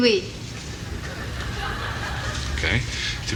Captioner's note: audience laughing